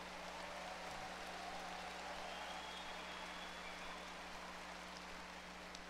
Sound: audience cheers and applause

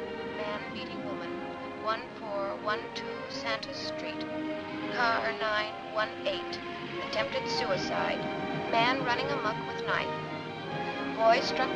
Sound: radio chatter

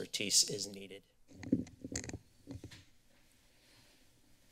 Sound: mic tapping; silence

